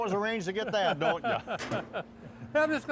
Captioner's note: laughter